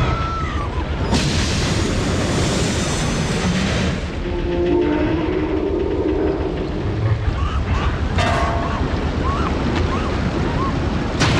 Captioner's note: Titanic Groans and Starts it's Final Plunge